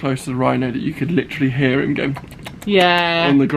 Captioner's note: lips smacking